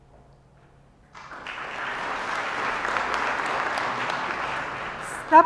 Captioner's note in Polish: oklaski